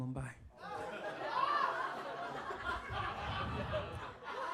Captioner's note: audience laughs